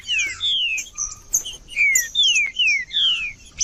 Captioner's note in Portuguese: trinca ferro cantando